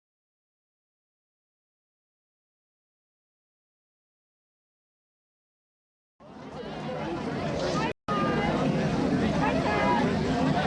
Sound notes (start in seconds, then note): 8.0 crowd chattering